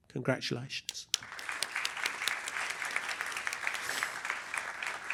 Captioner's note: applause